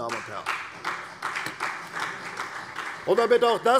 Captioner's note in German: Beifall CDU und vereinzelt BÜNDNIS 90/DIE GRÜNEN